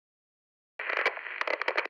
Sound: crackling

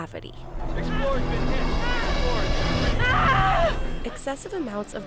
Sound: astronaut yelling

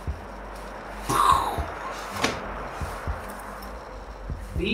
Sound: he makes the sound of an explosion

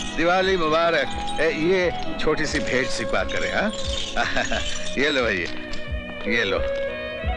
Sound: chuckles

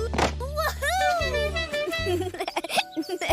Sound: horn honks; giggles

